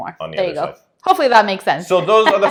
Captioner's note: laughing